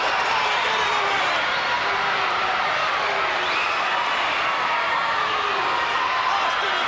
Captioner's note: crowd cheering